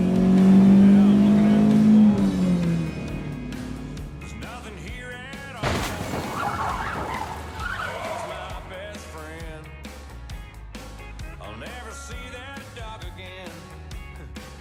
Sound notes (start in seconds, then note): 0.0 truck engine revving; 3.0 gentle upbeat music; 5.6 truck crashing; 14.4 gentle upbeat music